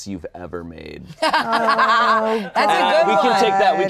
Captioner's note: laughing